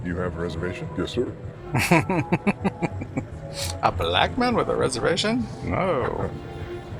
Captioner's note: laughing